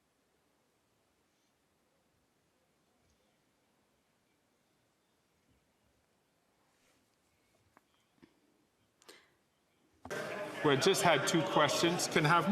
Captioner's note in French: voix de l'interprète